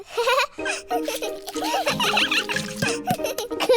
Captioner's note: giggles; all giggling